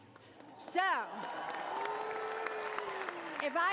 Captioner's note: applause